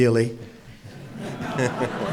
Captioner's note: laughter